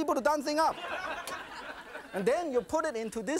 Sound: audience laughing

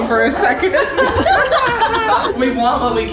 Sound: laughing

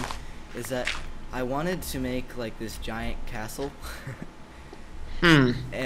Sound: laughs

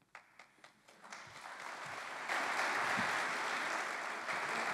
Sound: applause

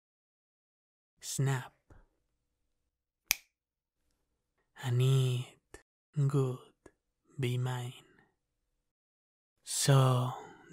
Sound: snap of fingers

